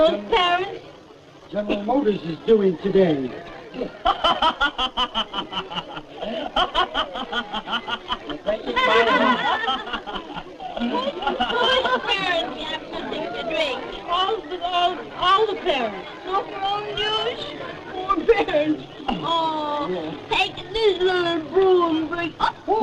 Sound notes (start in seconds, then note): 3.7 raucous laughter